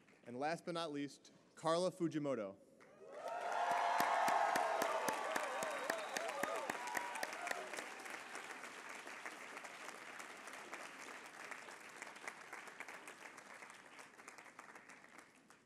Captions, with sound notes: And last but not least, Carla Fujimoto-- [APPLAUSE]